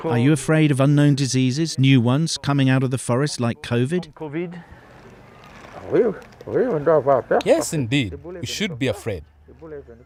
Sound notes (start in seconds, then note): 6.0 non-english speech